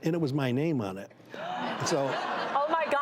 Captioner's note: gasps and laughter